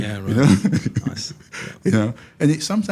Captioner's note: chuckles